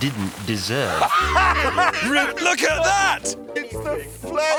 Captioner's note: both laugh